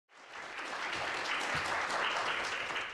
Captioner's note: applause